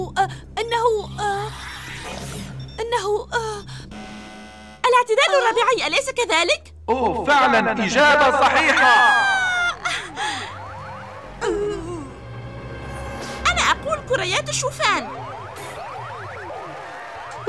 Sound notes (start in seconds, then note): 3.8 buzzer sounding; 8.0 cheering